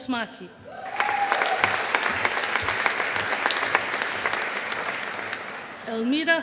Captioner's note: audience applauding